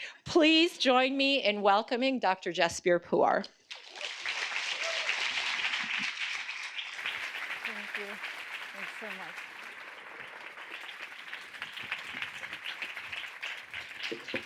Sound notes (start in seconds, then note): 4.3 audience applauding; 9.9 audience applauding